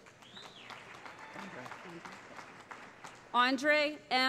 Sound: cheering

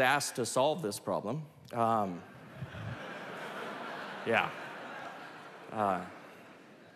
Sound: laughter

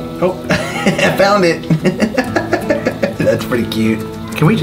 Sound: laughs

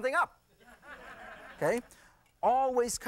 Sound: laughter

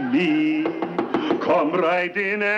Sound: knocking

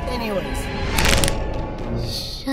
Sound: snap

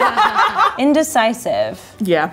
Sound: laughing

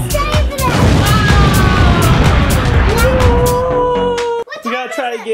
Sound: explosion sound effect

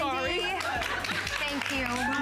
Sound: applause

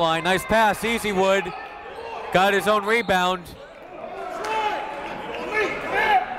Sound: whistle

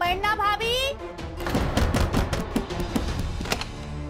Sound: banging on door

